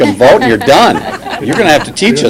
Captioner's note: laughter